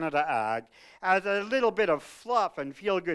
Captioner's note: none